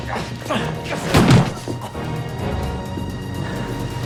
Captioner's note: gun firing